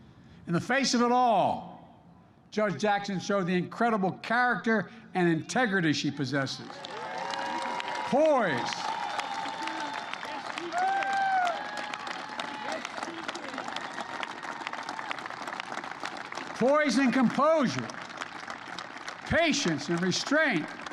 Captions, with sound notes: In the face of it all, Judge Jackson showed the incredible character and integrity she possesses. (Applause.) Poise. Poise and composure. Patience and restraint.